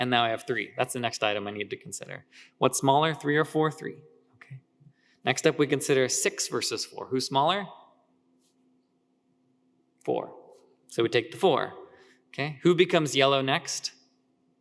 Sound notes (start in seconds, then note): none